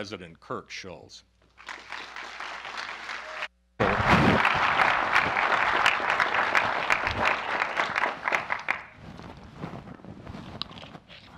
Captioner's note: applause